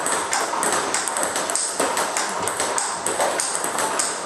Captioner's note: ball ping pong hitting continues